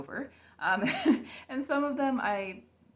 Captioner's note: laughs to keep from crying